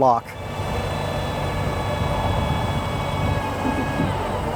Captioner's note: machinery whirring